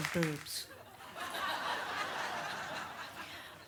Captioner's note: audience laughs